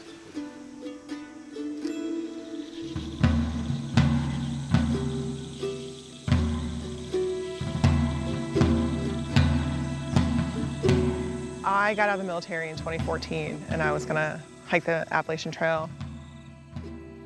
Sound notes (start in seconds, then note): 0.1 calm music; 2.7 birds chirping; 3.8 drum music; 5.9 reflective music